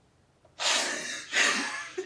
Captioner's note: laughing